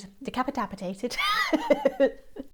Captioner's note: laughs